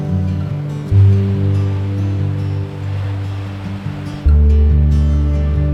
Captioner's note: waves crashing loudly; lighthearted music